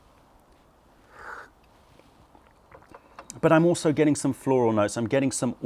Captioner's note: sips tea